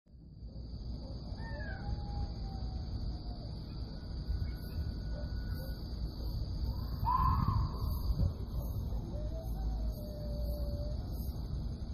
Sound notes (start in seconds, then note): 0.0 outdoor noises and wildlife voices